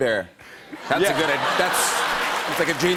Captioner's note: laughter